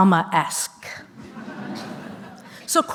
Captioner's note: laughter